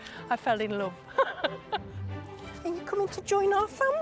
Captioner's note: laughing